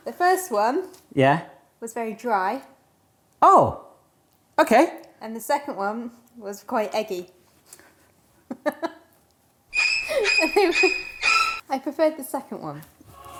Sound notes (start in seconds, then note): 9.8 eerie dramatic music; 9.8 laughing